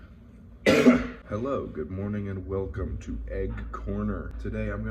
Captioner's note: cough